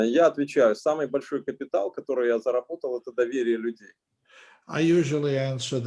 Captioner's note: speaking Russian language